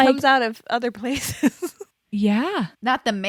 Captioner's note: laughs